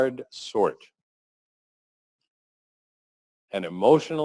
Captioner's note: pause